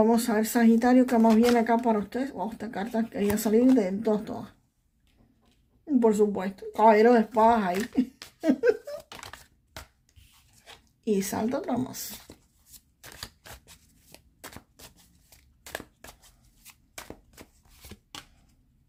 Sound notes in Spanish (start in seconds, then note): 7.9 risas